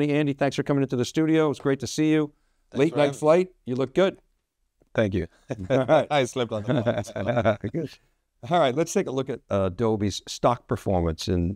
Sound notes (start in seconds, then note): 5.5 both laughing